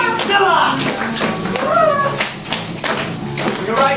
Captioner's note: audience shaking rattles, sailors whimpering